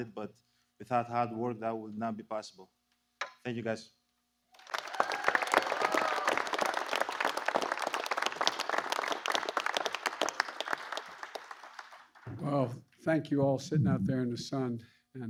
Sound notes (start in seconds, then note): 8.7 applause